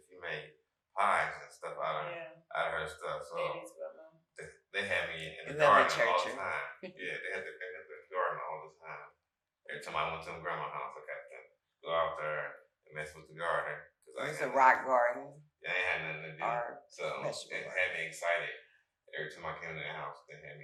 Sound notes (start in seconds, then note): 3.8 speaking faintly; 5.4 chuckles; 5.5 speaking faintly